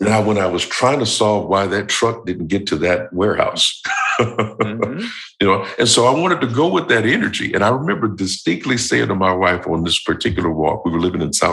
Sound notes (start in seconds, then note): 3.7 chuckle